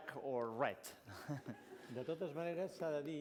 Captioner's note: laughs; non-english speech